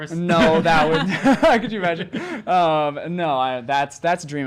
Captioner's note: laughs